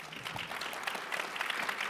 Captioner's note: attendees applaud